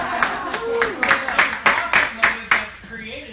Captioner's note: laughing; applause